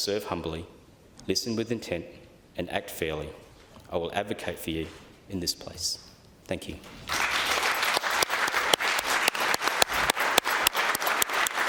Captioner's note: applause